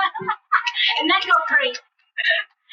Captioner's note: laughs